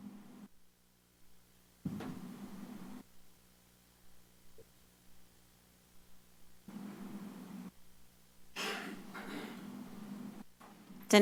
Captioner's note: silence